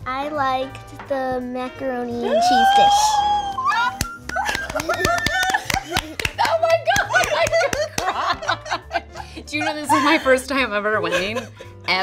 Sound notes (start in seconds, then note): 3.4 squealing; 8.8 laughs